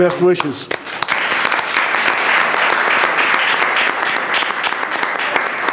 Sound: audience applauding

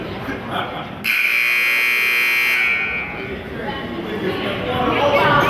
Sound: buzzer goes off

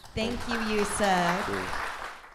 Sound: applause

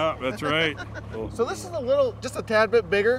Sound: chuckling

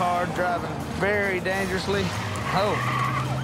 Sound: tires squealing; siren blaring

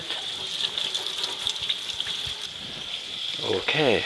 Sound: water running

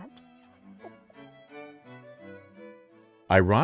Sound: laughs

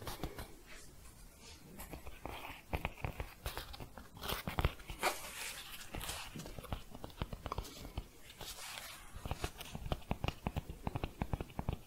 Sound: shuffling and tapping

